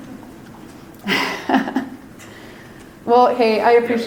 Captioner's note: laughs